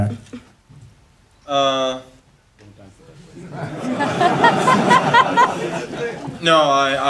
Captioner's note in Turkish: kahkahalar